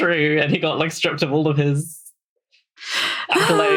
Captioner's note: laughs